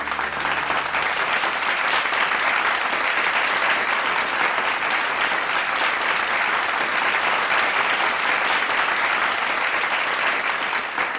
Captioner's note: applause